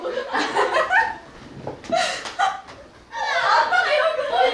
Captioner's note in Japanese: ハハハ